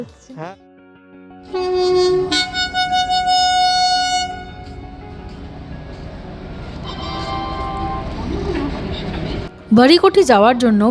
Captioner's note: rail announcement